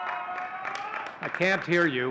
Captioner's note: audience cheering and clapping